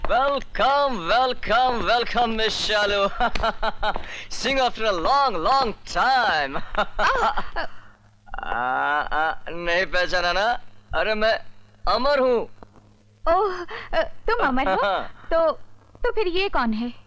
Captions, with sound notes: Welcome! Welcome Ms. Shalu. (Laughs) See you after long long time. (Laughs) Don't recognise me? I'm Amar. Oh, you are Amar? Then who is he?